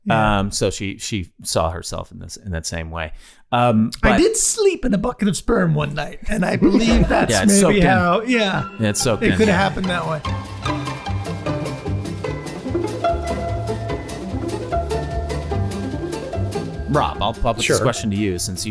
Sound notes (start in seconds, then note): 6.4 all laughing; 11.5 theme music